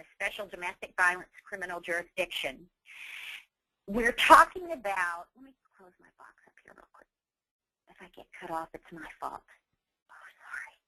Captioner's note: whispering